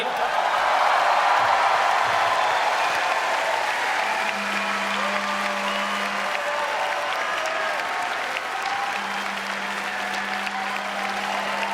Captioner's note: audience cheers